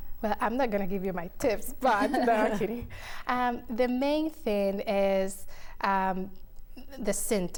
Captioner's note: chuckling